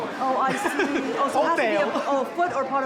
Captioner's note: laughs